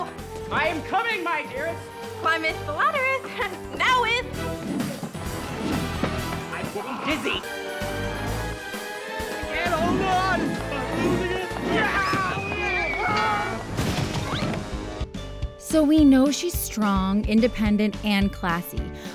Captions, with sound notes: I am coming, my dearest. Climeth the laddereth...noweth! I'm getting dizzy. Ned, hold on! [screaming] So we know she's strong, independent and classy,